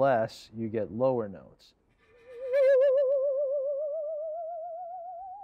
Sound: metallic wavering

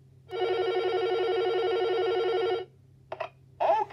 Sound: phone ringing

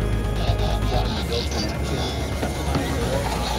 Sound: robot noises

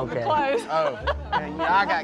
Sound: laughter

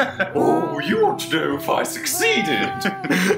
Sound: imitating John

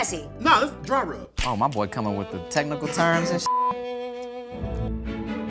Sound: beep; classical music

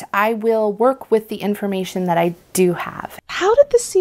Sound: interviewer Voice

